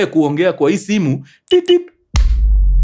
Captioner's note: beeps